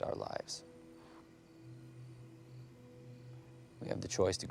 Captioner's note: crickets chirping; tense music